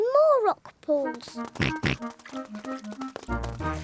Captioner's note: oinks